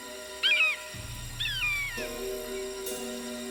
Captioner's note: suspenseful music; vulture screams